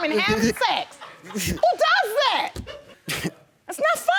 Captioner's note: audience laughing; snickers